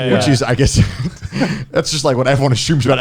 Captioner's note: laughs